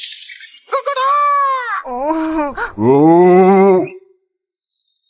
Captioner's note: gurgle, groan, oh oh